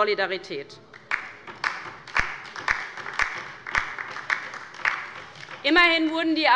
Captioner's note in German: Beifall bei der LINKEN